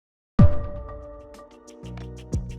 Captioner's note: Healthy Canadians logo with pulse sound